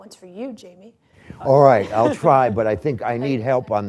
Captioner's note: laughter